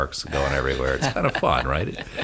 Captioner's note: hosts laugh